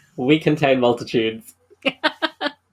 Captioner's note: laughs